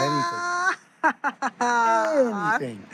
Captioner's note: laughter